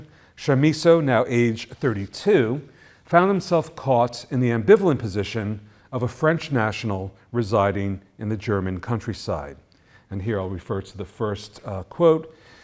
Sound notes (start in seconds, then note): none